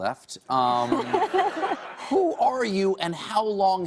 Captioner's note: laughter